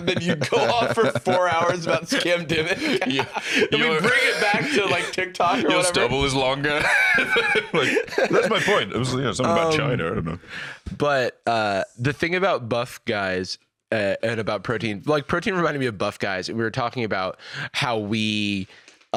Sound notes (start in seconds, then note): 3.1 laughs